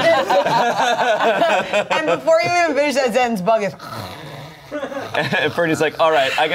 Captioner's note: everyone laughs; snores